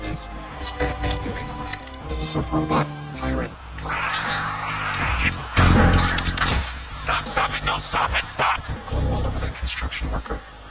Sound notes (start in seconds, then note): 3.5 yells; 5.5 all grunt